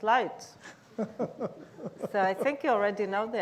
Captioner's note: laughs